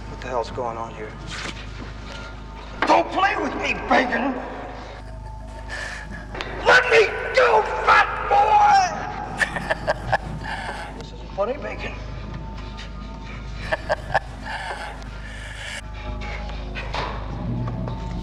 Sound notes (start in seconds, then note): 9.7 Lester laughing; 13.6 Lester chuckling